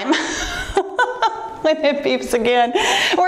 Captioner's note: laughing softly